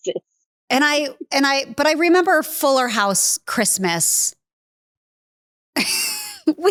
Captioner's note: laughs